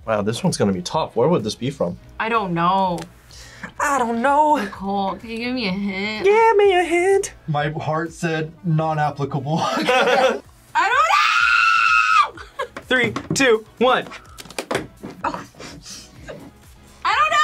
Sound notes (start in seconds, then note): 9.6 both laugh; 10.8 screams; 15.2 laughs